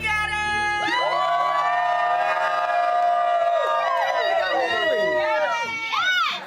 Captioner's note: people cheering and clapping